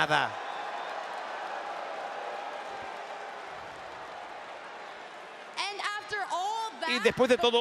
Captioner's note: applause